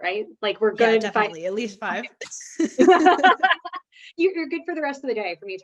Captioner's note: both laughing